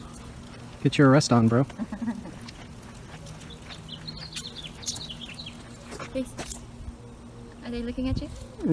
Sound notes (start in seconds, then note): 1.6 chuckles; 2.5 bird chirping